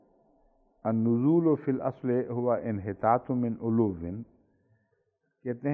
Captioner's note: Arabic